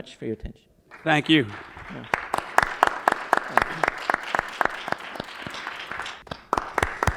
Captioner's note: applause